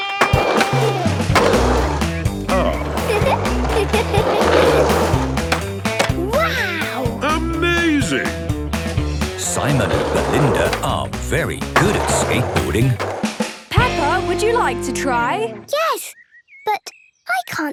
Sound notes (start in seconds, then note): 0.1 rock music; 2.4 giggles